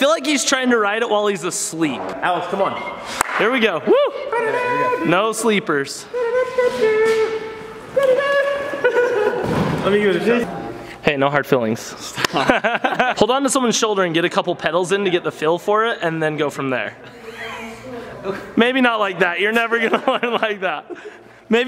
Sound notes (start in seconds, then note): 4.3 mouth trumpeting; 12.1 laughing